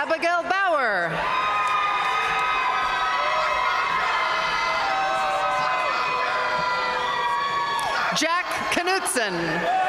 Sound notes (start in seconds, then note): 1.2 audience cheering and applauding